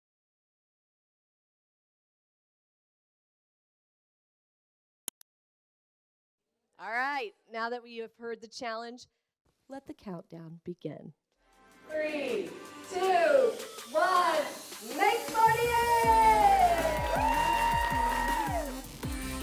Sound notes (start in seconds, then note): 12.1 crowd; 16.8 crowd cheering